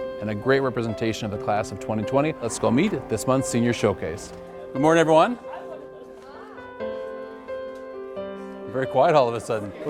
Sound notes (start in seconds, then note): 5.9 gentle piano music; 5.9 students chattering